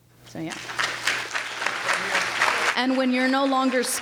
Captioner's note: applause